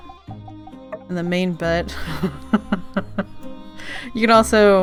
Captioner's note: laughs